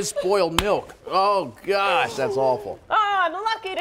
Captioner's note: laughter